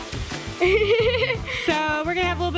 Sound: giggles

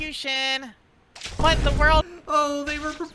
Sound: boom

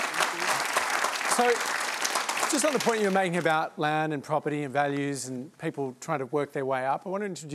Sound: applause

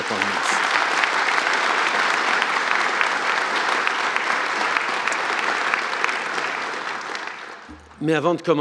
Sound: applause

